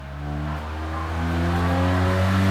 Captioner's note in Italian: Rumore auto elaborata che si avvicina